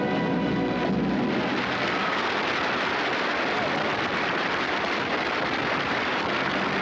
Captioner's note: crowd applause